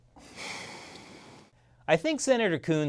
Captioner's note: deep sigh